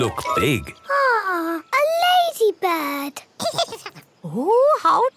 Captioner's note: giggles